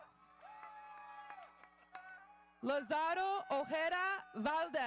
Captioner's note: audience cheering